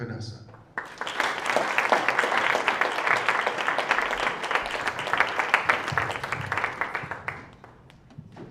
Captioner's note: applause